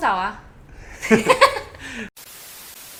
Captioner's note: laugh